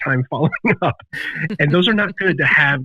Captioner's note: laughs